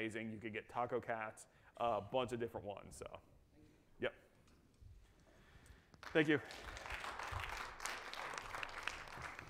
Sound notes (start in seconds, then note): 6.0 audience applauds